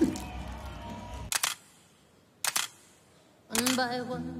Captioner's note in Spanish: Disparos cámara